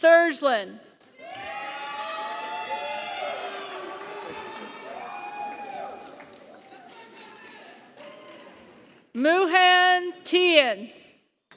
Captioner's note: applause